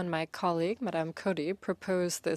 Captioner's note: speaking in French